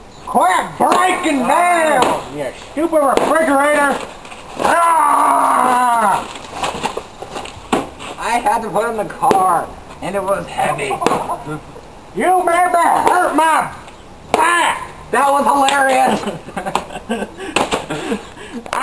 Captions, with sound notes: Quit breaking down, you stupid refridgerator! *growls* I had to put it in the car, and it was heavy! You made me hurt my back! THAT WAS HILARIOUS! *laughing*